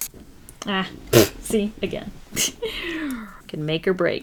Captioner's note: laughs